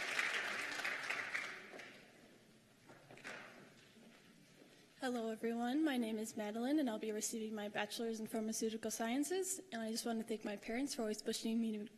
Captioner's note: cheers and applause